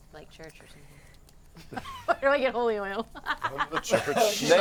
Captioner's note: laughter